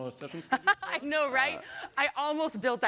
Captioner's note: laughter